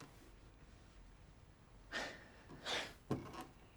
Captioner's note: Jim sighs